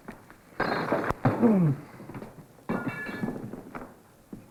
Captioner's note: groans